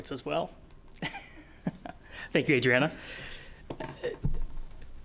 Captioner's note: laughing